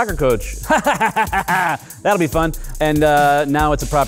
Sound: chuckles

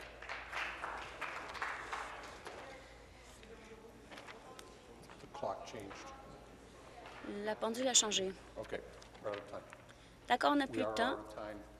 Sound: applause

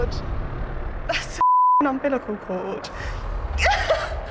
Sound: beep; laughter

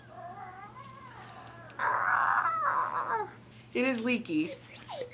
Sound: dinosaur noises plus more off camera

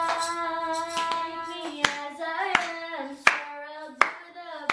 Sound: clapping along

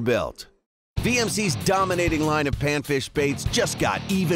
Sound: voiceover

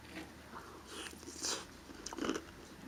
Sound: eating; crunch crunch crunch

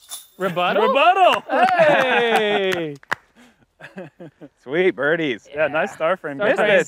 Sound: claps

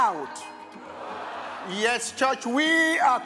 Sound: crowd

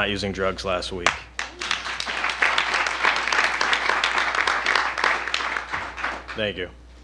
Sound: applause

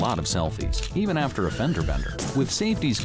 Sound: brakes squeal, cars crash

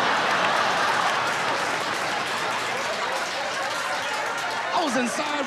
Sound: laughter, applause

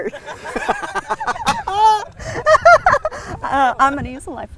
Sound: crowd laughter

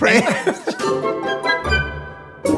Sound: laughing

